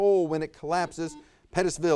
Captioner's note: buzzer buzzes